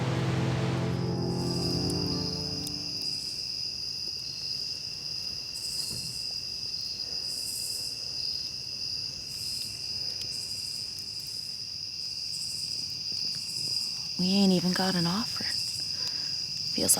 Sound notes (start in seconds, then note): 0.0 fire crackling; 0.8 crickets chirping; 10.6 crickets continue chirping